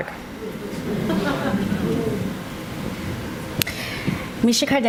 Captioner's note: audience responds